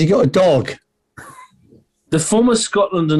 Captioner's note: sniggering